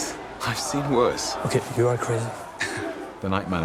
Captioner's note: laughs